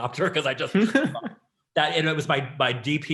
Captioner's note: laughing